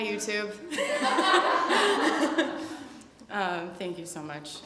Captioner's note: laughter